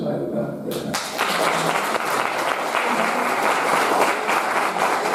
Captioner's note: audience applauding